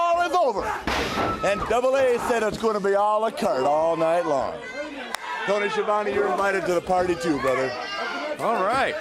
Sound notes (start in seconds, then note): 3.5 crowd chatter